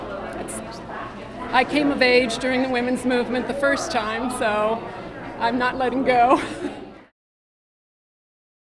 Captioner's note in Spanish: risas